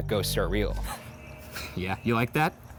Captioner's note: snickering